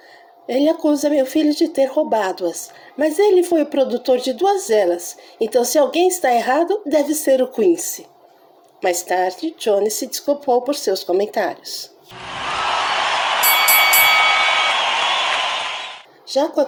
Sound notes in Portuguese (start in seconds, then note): 13.4 Som de ringue